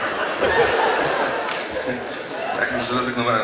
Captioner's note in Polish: śmiech